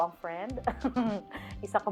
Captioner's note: laughs